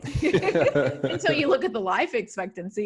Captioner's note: laughing